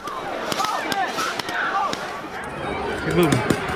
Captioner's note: ball launchers firing